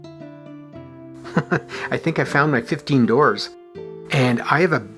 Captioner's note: chuckles